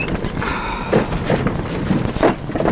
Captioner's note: sigh